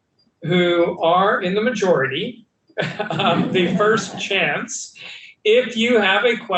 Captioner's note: laughs